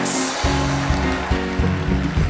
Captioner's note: applause